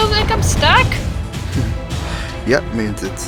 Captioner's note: chuckle